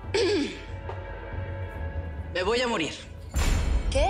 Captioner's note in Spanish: Carraspea